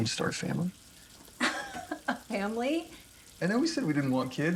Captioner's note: laughing